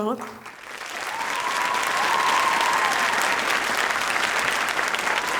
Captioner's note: audience applauding and cheering